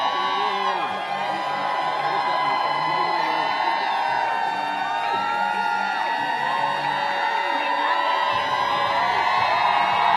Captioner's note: applause